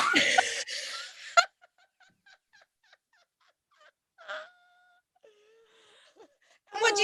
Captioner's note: they collapse in laughter